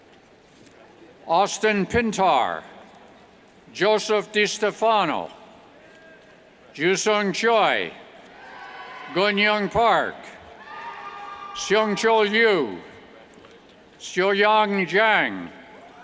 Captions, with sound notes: Austin Pintar, Joseph DeStefano, Joosung Choi, Gunhyung Park, (cheers) Seung Cho You, Seoyeon Jang, (cheers)